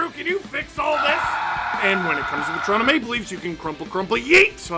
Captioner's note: screaming